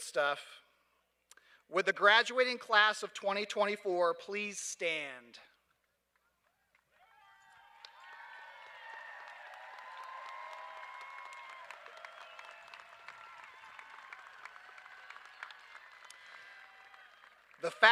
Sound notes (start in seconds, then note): 6.9 cheers and applause